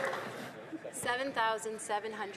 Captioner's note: some Applause